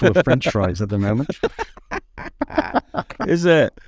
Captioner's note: laughing